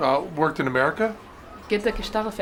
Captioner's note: non-english speech